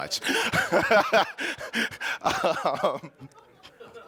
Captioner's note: laughing